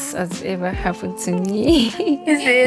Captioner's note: laughs